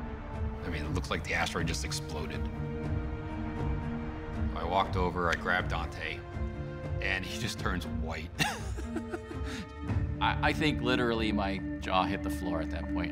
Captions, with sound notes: I mean, it looks like the asteroid just exploded. I walked over, I grabbed Dante, and he just turns white. (laughs) I think, literally, my jaw hit the floor at that point.